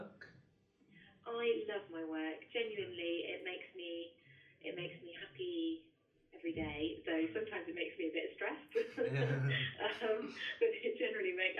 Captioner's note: laughter